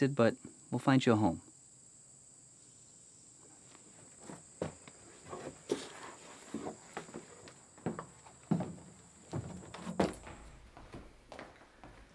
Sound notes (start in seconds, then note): 3.3 insects chirping